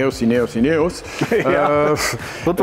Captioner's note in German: lacht